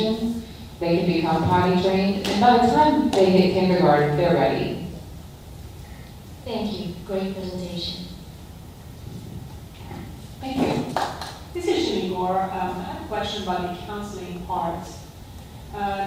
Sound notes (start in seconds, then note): 10.8 applause